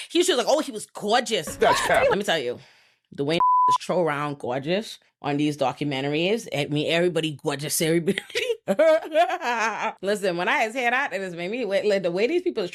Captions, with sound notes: He was just like, oh, he was gorgeous. That's crap. Let me tell you, the way (beep) is throw around gorgeous on these documentaries at me, everybody, gorgeous, everybody. (laughs) Listen, when I had said that, it was maybe the way these people